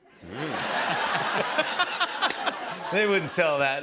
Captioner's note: laughter